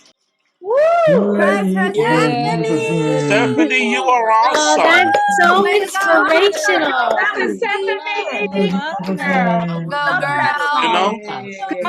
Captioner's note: applause